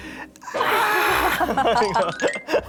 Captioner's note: screaming; laughing out loud